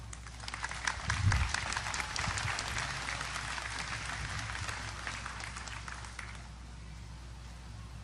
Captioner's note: audience applause